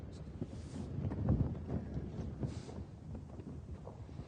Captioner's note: sounds of the wind blowing against canvas